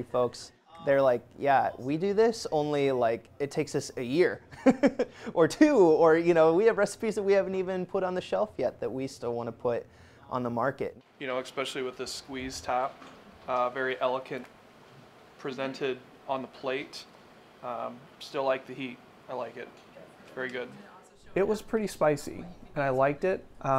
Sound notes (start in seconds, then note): 4.5 laughs